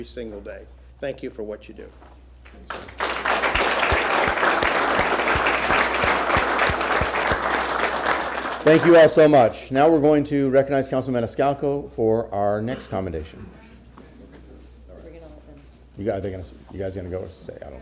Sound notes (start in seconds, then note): 5.4 applause